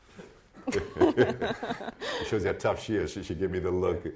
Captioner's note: laughing